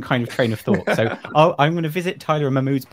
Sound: panelists laughs

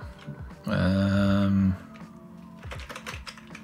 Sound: groans

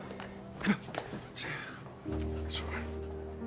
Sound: gasps

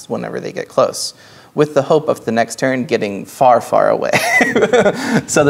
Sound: laughing

